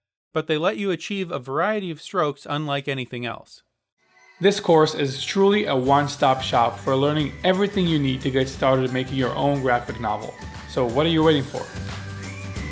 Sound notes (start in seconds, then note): 4.5 voiceover